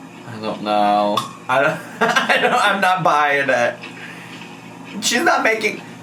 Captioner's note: laughs